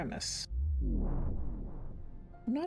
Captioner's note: vwoom